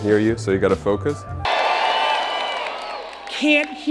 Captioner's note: applause